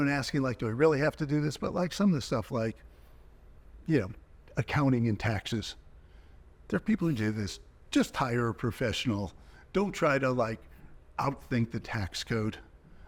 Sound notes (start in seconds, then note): none